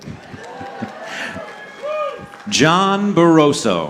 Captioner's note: audience cheering